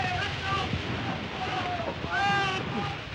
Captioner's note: water splashing